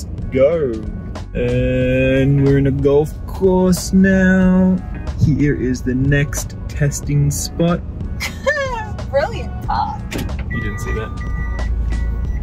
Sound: laughs

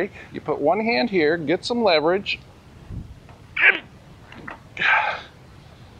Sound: grunts

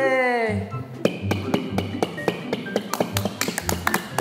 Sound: clap clap clap

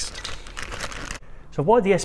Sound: packet rustling

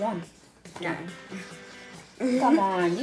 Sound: laughs

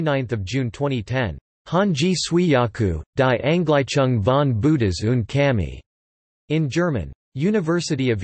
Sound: in German

